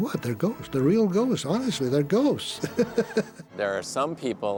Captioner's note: laughs